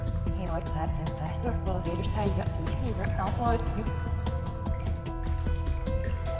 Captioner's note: tense music; Ms. Hemlock chattering